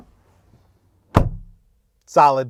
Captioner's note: door thuds lightly